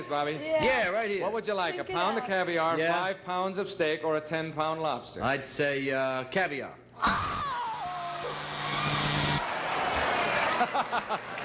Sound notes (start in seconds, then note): 8.2 buzzer; 9.0 Bert laughing